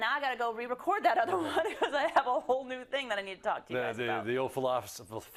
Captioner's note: laugh